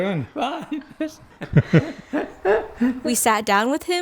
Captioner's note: laughs